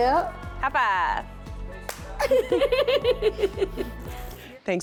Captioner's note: both laughing